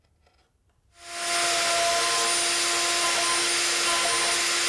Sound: machine whirring

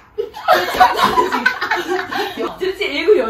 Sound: laughs

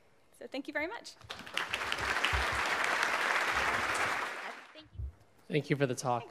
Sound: audience applauding

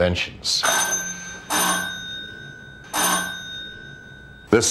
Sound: bell ringing

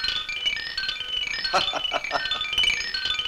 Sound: laughs

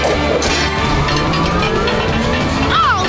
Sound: gears moving

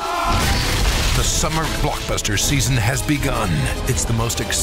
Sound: voiceover

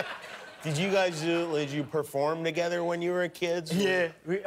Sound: laughter

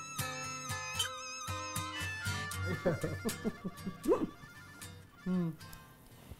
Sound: laughing

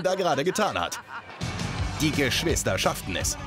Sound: German Voiceover Translation

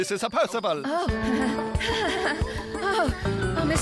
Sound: giggling

